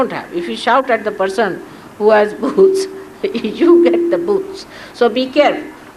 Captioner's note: Shri Mataji laughs